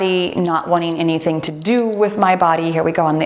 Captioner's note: timer beeps